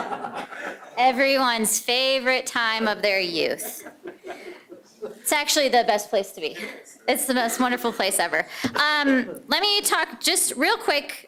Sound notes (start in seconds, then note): 6.6 laughter